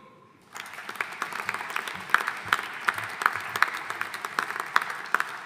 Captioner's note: audience applauding